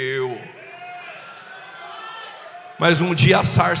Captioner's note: shout